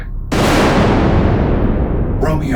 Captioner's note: thunder claps